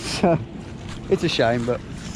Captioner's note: laughing